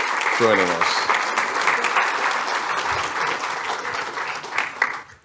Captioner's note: applause